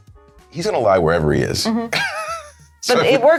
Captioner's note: wheezing